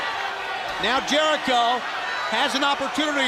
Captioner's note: crowd chatter